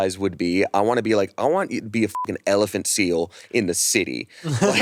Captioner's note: beep